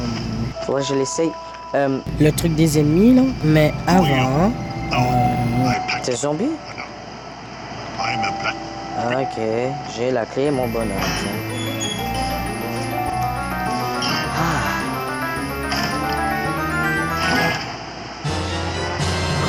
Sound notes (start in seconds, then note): 10.5 music and sound of the game; 14.1 sighs; 15.3 music and sound of the game